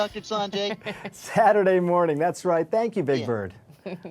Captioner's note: chuckling; laughing